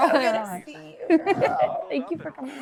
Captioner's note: Georgia laughs